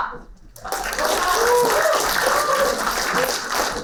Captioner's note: applauding